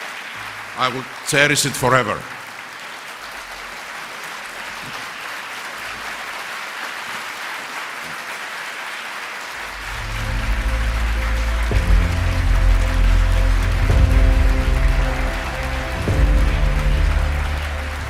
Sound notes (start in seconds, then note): 5.3 applause